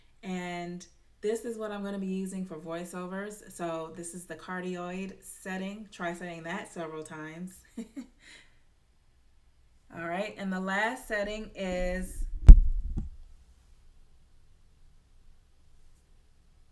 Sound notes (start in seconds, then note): 7.7 chuckling